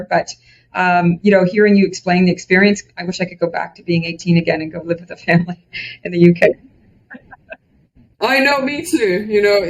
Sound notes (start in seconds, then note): 7.1 laughs